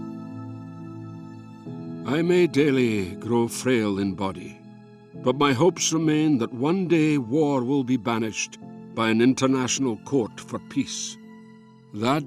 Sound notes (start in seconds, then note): 2.6 Voz en off